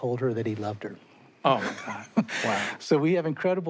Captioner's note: chuckles